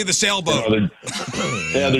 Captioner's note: laughing